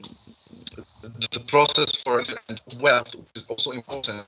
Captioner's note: glitch